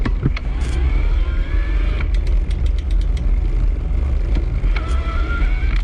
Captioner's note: bicycle motor spinning